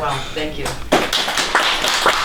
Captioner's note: applause